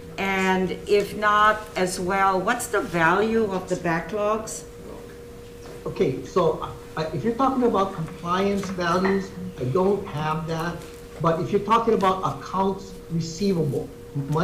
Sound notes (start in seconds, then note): none